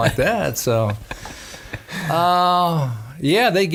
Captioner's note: laughing